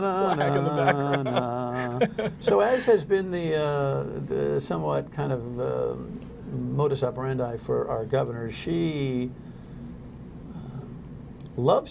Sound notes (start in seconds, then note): 3.0 laughter